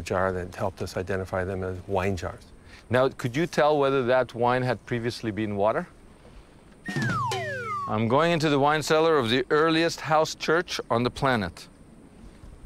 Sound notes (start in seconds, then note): 7.2 dramatic swooshing sound